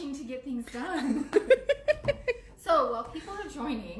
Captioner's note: laughs